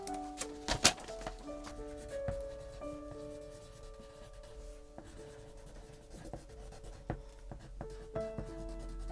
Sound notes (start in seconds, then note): 0.0 paper rips; 2.0 pencil gently scratching